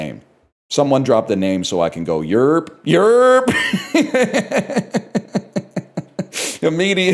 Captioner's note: laughs